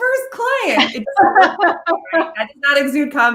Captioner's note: laughing